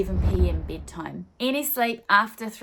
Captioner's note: swooshing